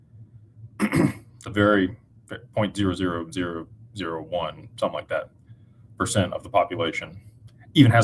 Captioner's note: clears throat